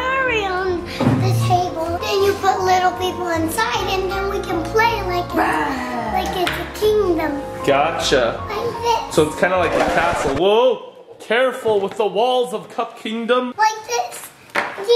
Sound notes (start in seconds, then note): 9.6 record scratches